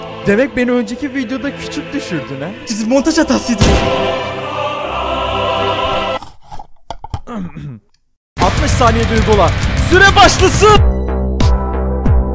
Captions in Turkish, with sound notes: Demek beni önceki videonda küçük düşürdün he! Montaj hatasıydı! (silah sesi) Öğm öhmm. 60 SANİYEDE HUGOLA ! SÜRE BAŞLASIIIIIIIIIIIIIIIIIIIIIIIIII